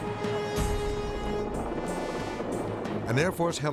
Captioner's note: helicopter whirring